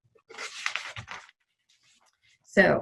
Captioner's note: pages rustling